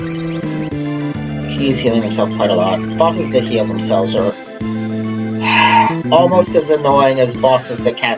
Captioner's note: sigh